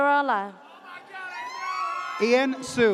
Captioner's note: audience cheers